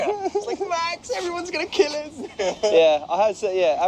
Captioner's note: laugh